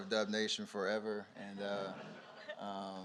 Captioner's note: laughter